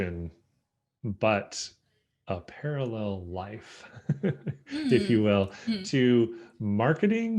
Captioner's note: laughs